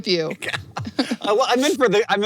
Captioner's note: laughs